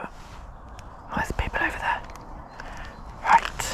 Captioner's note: whispering